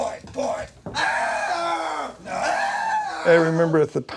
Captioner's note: man screams hysterically